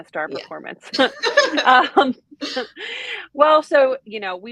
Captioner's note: both laughing